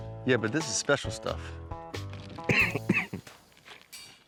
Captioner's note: coughs